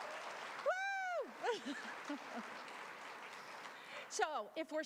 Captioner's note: applause